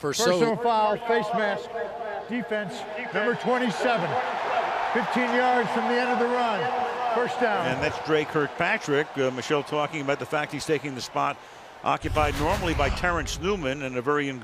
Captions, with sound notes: Well, for so-- Personal foul, face mask, defense, number 27. [cheering] 15 yards from the end of the run. First down. And that's Dre Kirkpatrick. Michele talking about the fact he's taking the spot occupied normally by Terence Newman.